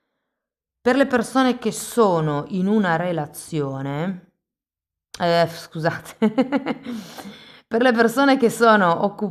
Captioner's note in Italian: risate